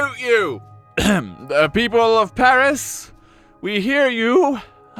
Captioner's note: ahem